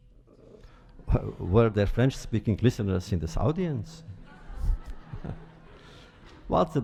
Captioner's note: laughter